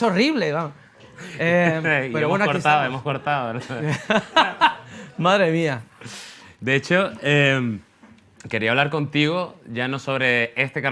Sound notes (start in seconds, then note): 3.5 laughs